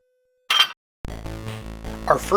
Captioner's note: metallic clank